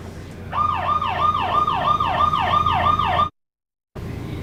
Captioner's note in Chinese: 警報聲